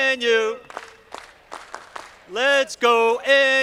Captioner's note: audience clapping